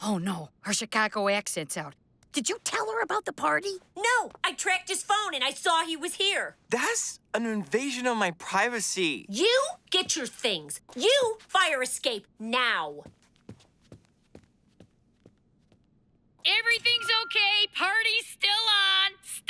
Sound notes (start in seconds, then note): 6.8 slurring; 12.9 footsteps